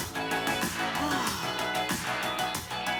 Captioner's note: relieved exhale